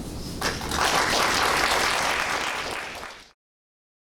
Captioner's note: audience applauding